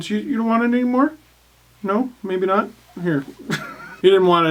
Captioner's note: laugh